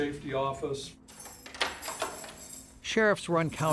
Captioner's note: keys jingling